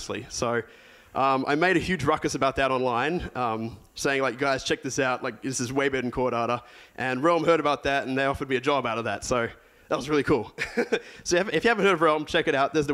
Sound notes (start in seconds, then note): 10.6 laughs